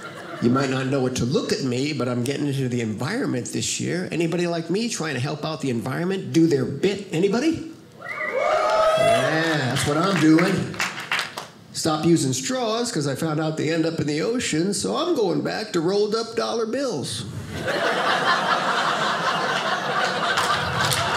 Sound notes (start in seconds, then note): 8.0 audience cheers; 17.4 audience laughing